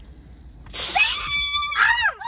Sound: spraying; screaming

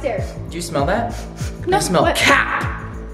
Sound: sniffing

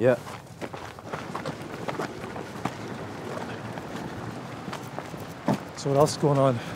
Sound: footsteps crunching pavement

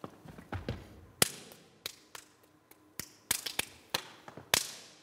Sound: hands clapping

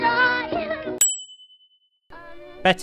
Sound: ding

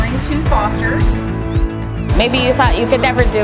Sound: kitten meow

